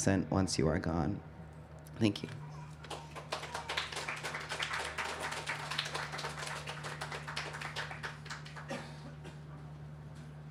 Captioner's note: clapping